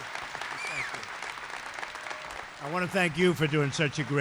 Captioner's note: applause